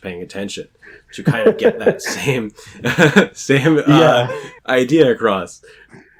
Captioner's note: laughs again